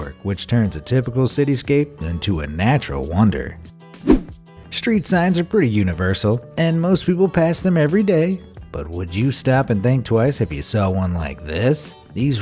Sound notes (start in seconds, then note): 4.0 air whooshing